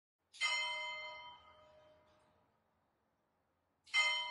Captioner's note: soft bell chiming